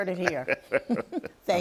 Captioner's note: both laugh